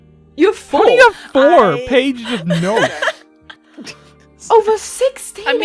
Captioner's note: laughter